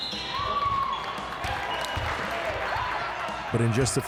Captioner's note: audience cheering